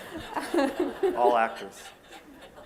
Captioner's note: laughter